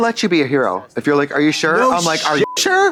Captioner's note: beep